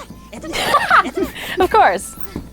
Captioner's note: laughing